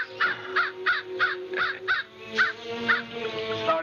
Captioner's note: chirping